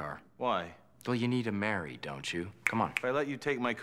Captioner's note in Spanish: Chasquea los dedos